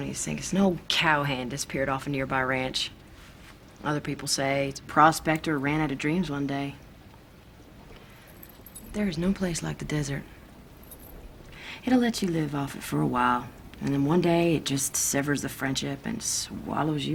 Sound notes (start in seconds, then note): none